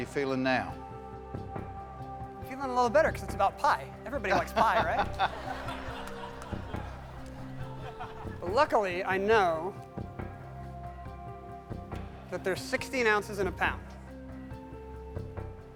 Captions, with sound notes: THIS WAS THE QUESTION THAT SCARED YOU. HOW YOU FEELING NOW? I'M FEELING A LITTLE BETTER, BECAUSE IT'S ABOUT PIE. EVERYBODY LIKES PIE, RIGHT? [ LAUGHTER ] WELL, LUCKILY, I KNOW...